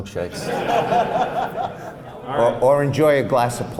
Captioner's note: laughs